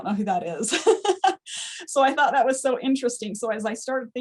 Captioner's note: laughs